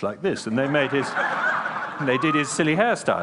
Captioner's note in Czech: Smích